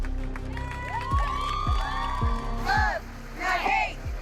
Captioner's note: audience cheers and applauds